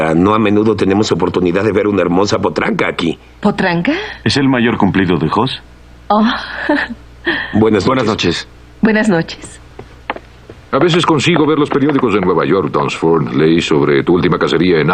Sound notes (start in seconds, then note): 6.4 quiet laugh